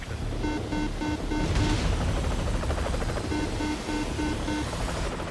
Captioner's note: alarm beeping